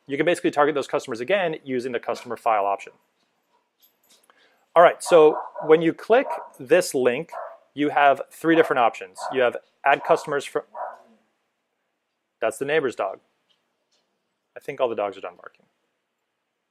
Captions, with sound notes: You can basically target those customers again using the customer file option. Alright, so when you click this link you have three different options. You have add customers for, (bark) that's the neighbor's dog. I think all the dogs are done barking.